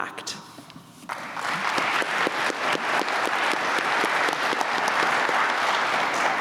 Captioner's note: applause